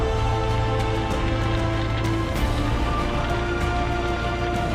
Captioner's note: fire crackling